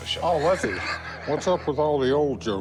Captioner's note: laughs